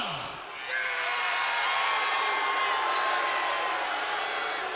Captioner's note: crowd boos